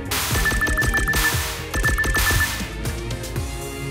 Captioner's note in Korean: 빡침의 광클